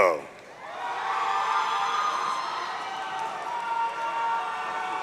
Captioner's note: audience cheering